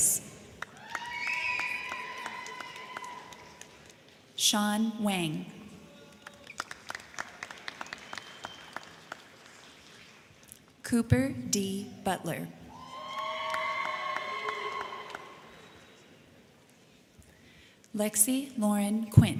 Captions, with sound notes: (crowd cheering) (crowd clapping) Sean Wang. (crowd cheering) (crowd clapping) Cooper D Butler. (crowd cheering) (crowd clapping) Lexi Lauren Quint.